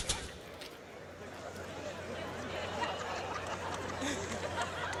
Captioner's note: laughter